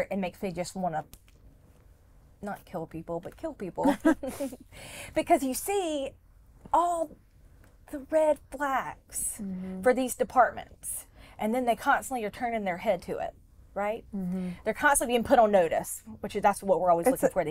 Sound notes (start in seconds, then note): 3.9 all chuckle